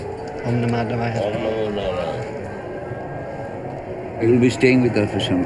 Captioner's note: speaking in foreign language